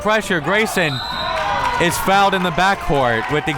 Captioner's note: whistle tweeting